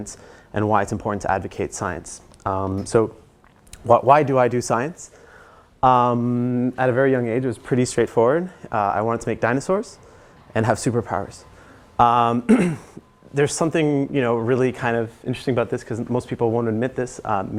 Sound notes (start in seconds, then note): 12.4 cough